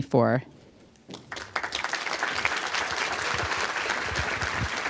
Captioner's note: applause